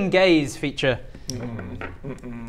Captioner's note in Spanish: gemidos